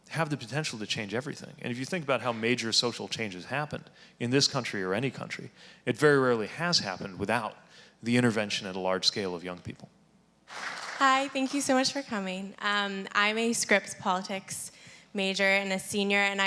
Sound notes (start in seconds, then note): 10.4 audience applauding